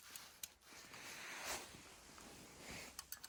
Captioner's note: metal clinking